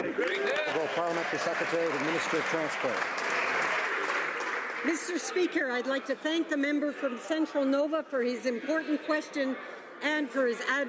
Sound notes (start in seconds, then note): 3.1 some Applause